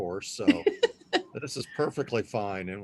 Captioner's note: laughs